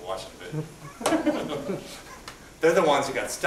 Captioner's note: laughter